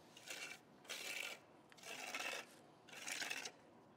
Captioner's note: trowel rasping